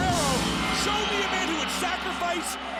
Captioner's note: gong rings